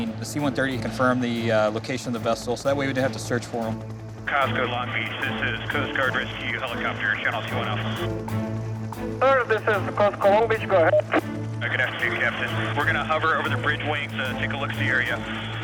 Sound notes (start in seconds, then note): 4.3 man Over Radio